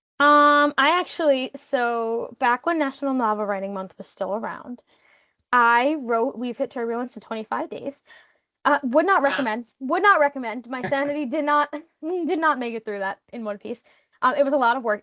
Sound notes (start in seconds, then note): 10.8 laughing